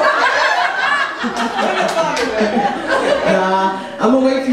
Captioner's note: laughs